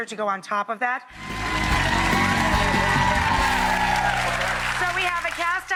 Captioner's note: audience applause